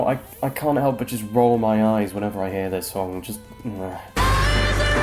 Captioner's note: mutters in disapproval